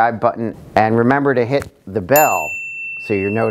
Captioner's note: bell dinging